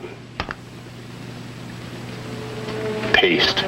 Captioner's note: hammer tapping